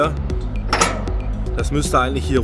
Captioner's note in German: klack